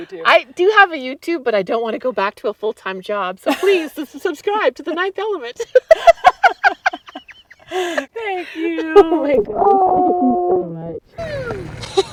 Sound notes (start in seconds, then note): 3.4 laughs; 5.5 both laugh